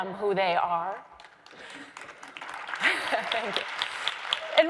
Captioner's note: crowd applauds